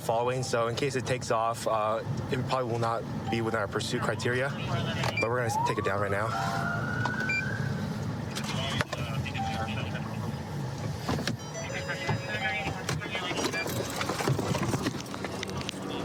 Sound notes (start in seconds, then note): 5.1 police siren; 11.3 car door chiming